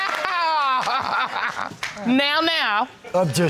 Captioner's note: laughing